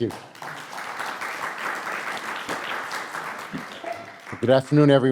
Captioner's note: audience applauding